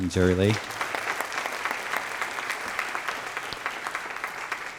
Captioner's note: applause